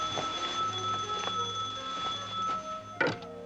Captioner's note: phone rings